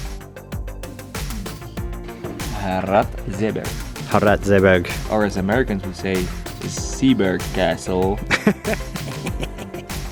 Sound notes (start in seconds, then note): 6.9 american Accent; 8.2 cameraman laughs